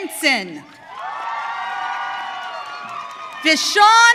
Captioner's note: audience cheering